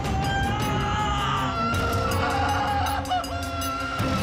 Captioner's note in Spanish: gritos